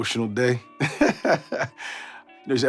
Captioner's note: laughing